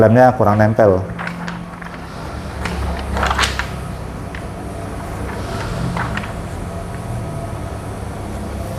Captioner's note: PET film noise